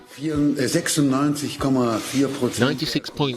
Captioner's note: speaking in foreign language